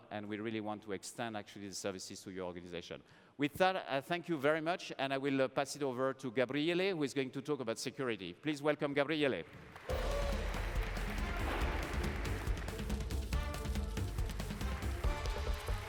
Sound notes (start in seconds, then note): 10.9 applause